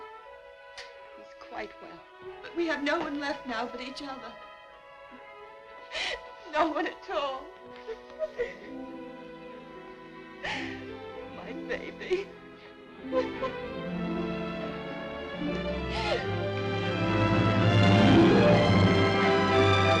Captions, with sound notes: he's quite well. But we have no one left now but each other. No one at all. (sobbing) My baby. (dramatic music)